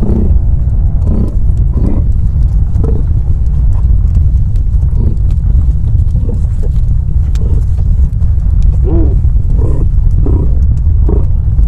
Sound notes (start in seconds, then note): 1.8 caribou calling continues amidst the deep rumbling noise